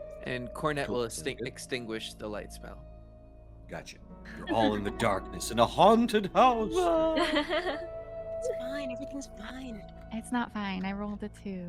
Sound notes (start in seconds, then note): 4.3 Violette laughs; 5.4 Calla laughs